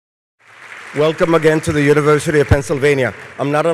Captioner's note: applause